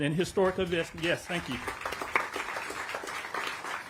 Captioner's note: applause